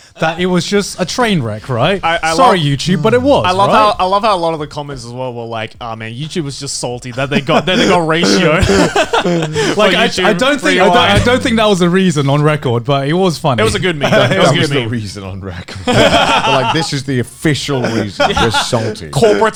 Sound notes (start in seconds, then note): 8.8 all laughing; 15.5 all laughing